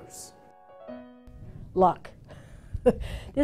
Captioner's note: woman chuckles